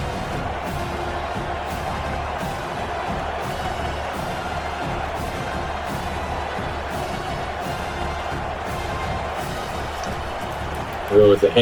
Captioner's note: crowd Noises